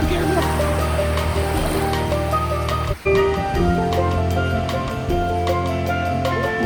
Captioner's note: water sloshing; laid back music